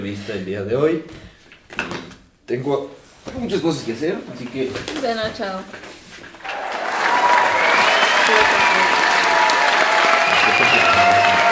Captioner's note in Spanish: Aplausos, habla por debajo del aplauso